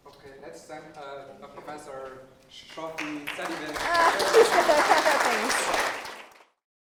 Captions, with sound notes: Okay, let's send the professor proper- >> [APPLAUSE] >> [LAUGH] Thanks.